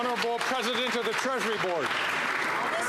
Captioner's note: applause